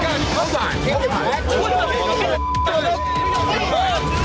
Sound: men screaming

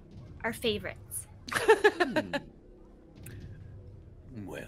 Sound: laughing

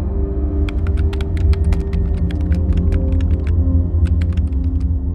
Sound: keyboard clacking

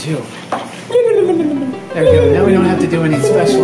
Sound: dream Transition Sound Effect

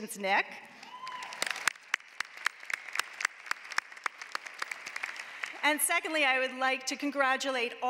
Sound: applause

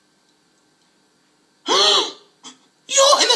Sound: gasps

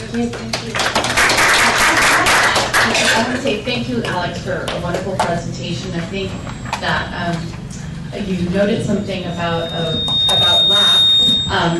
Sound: applause

